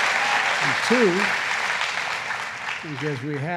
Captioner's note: applause